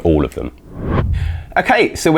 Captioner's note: whooshing